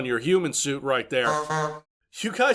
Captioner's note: honk honk